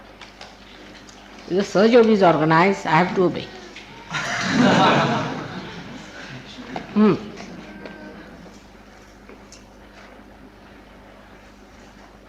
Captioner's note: laughter